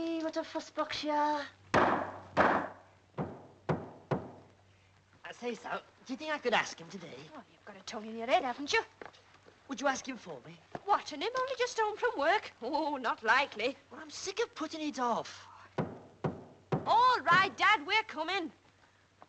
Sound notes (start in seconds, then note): 1.8 broom thudding; 17.2 broom thudding